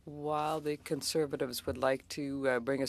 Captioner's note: speaking French